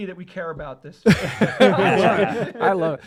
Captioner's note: laughter